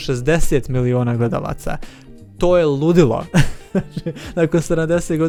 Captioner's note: laughter